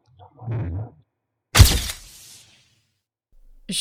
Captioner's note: flash noise